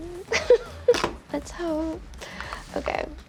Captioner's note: laughs